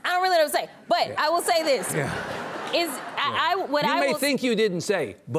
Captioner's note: audience laughs